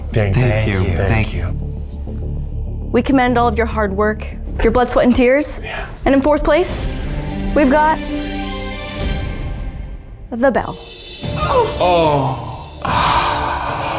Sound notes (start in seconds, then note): 6.8 dramatic music; 12.1 man gasps